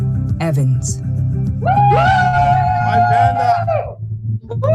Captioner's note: cheering